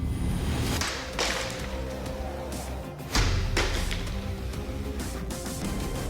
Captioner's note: pots shattering